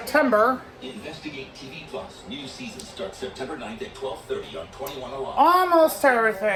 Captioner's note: "21Alive News at 5" plays in the background